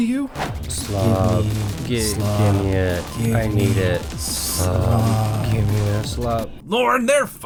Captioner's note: hyperpop music; mumble memery